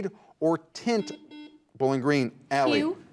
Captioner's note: buzzer buzzes